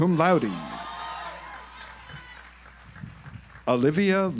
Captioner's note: audience applauds